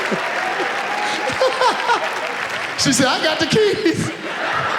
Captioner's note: laughs